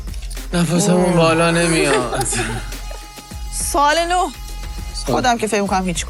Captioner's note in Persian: خنده